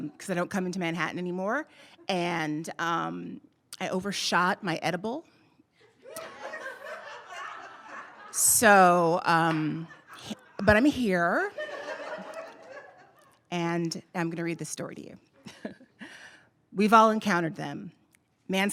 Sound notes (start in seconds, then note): 6.0 audience laughing; 11.5 audience laughing